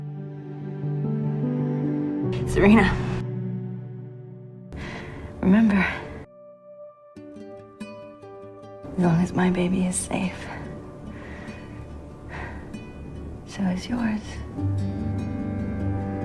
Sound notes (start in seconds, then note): 2.4 voiceover